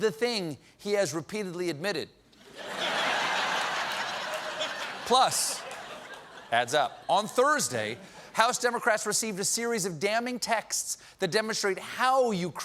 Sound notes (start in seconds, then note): 2.4 laughter